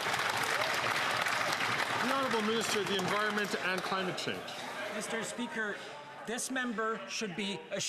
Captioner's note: some Applause